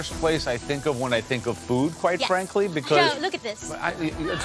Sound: crowd cheering

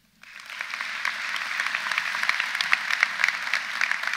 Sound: audience applauds

